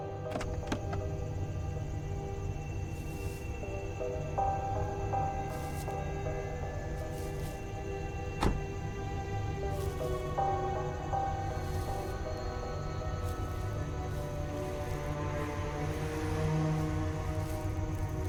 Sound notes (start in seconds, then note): 0.2 door clatters; 0.7 quiet, eerie music; 9.4 rustling grass; 10.2 quiet, eerie music